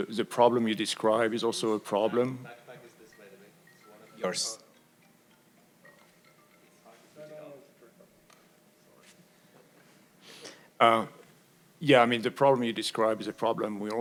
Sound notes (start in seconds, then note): 1.8 phone rings